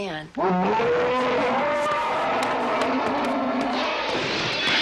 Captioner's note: Herman growling